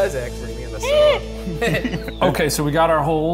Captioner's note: squeals; chuckles